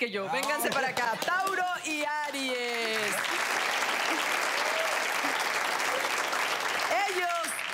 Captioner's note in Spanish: Aplausos